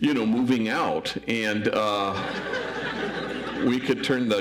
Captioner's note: audience laughs